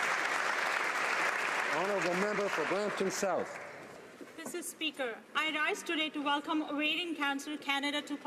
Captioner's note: applause